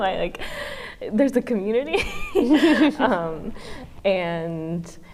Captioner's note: women laugh